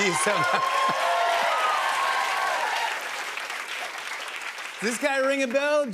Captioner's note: cheers and applause